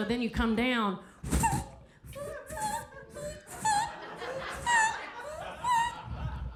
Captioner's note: Sarah imitates shoe squeaking